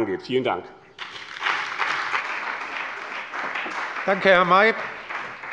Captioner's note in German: Beifall bei dem BÜNDNIS 90/DIE GRÜNEN und der CDU